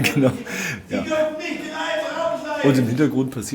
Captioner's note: angry imperial shouting